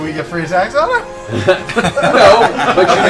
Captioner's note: laughter